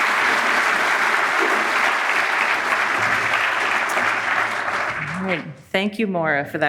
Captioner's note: audience applauding